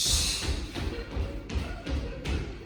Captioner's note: laughing